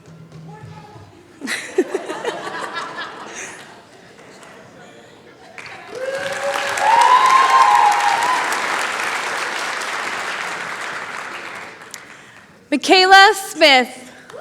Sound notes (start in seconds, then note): 5.4 cheering